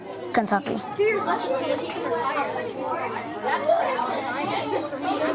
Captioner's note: students chattering